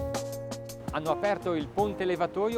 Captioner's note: speaks in foreign language